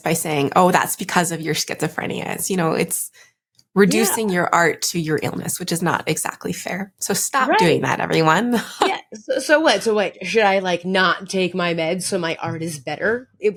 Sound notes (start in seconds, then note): 9.2 chuckles